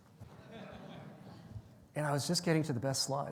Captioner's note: audience laughing